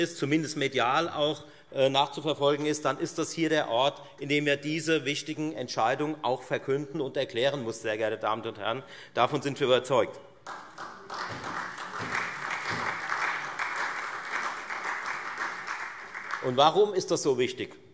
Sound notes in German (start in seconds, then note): 10.4 Beifall Freie Demokraten und SPD